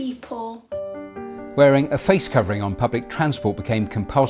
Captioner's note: rolling news audio